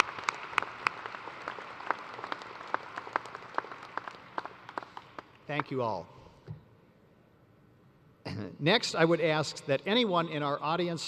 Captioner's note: applause